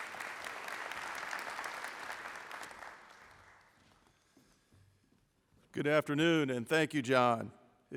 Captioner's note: applause